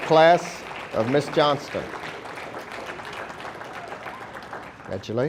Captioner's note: audience applauding